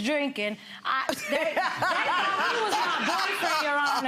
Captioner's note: Lynn laughing